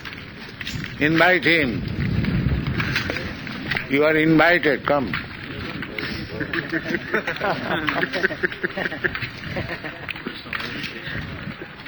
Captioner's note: sound of someone calling from a distance; laughter